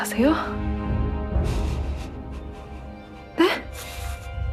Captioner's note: Oh-nam’s trembling breath